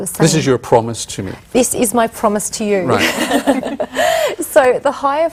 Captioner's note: all laugh